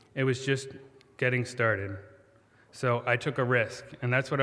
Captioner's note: none